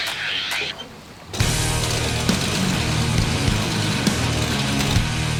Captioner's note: motor humming